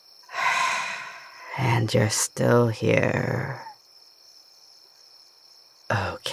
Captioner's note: deep breath